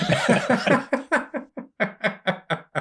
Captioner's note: sustained laughter